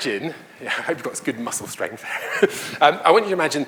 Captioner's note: laughs